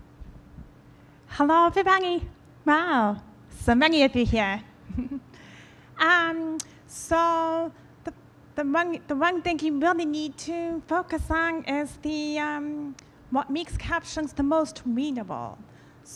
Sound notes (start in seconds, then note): 5.8 laughs